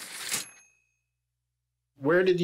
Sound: typewriter ding

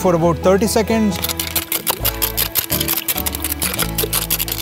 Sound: scratching sounds

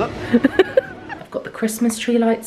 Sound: laughs

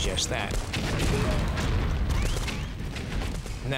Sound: explosions

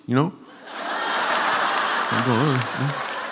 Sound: laughter

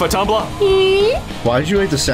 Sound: little anime girl sounds

